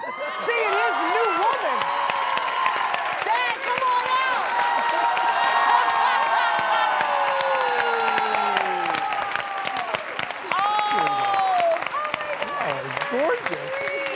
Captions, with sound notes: seeing his new woman. Dad, come on out. [APPLAUSE] You guys are gorgeous.